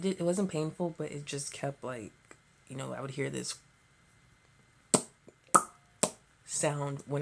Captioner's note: pop pop pop